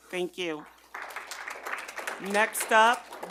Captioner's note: audience applauding